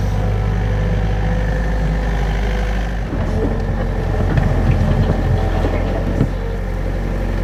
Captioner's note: digging sounds